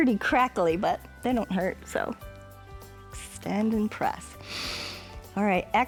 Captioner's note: inhales